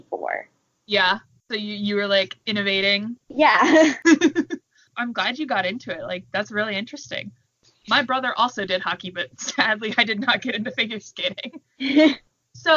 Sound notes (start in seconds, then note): 3.6 both laugh; 11.7 laughter